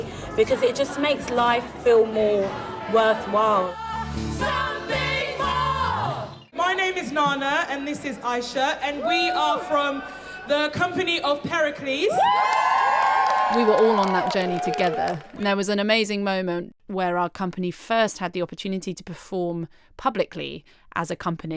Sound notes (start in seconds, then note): 12.0 cheering